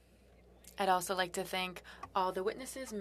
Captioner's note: speaking French